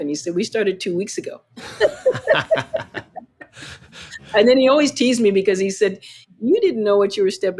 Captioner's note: laughter